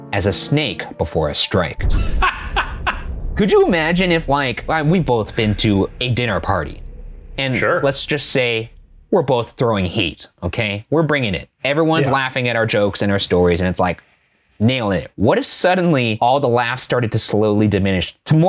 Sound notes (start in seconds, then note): 2.0 laughing